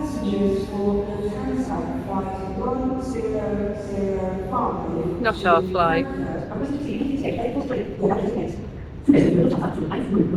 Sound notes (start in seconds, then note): 5.2 announcement sped up